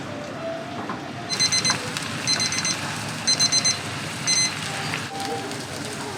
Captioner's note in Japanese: パスタが茹で上がる音